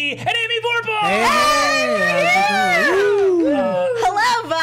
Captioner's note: cheering